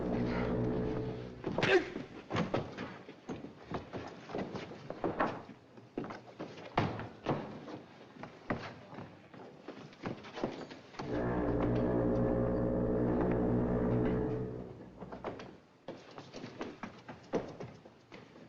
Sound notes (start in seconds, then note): 0.0 grunts; 11.0 foghorn Blows